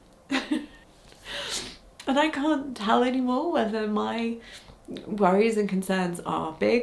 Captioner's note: chuckles